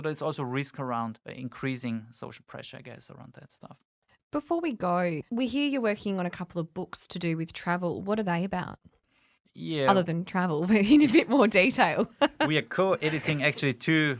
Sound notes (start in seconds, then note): 12.8 laughs